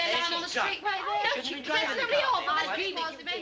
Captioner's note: all chattering, shouting